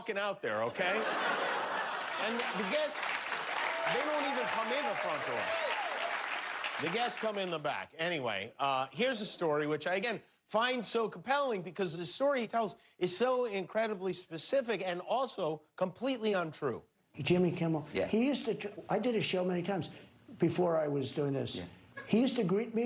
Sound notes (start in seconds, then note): 3.2 laughter; 4.9 applause